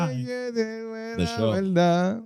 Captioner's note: speaking In Foreign Language